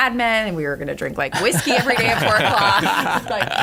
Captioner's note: laughter